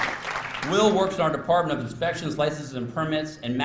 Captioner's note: applause